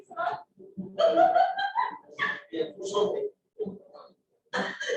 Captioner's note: laughter